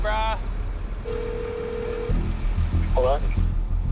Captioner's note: cellphone ringing